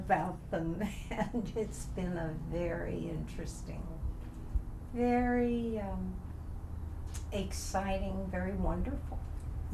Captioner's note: laughs